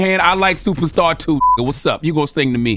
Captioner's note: beep